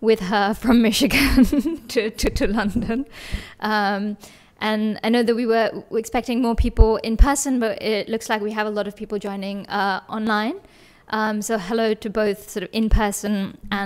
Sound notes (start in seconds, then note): 1.2 chuckles